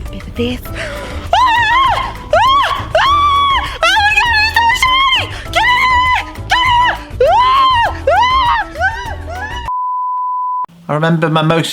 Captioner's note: screams